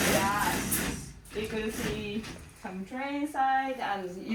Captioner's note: broken English